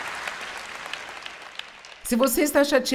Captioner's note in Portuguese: audiência se alegra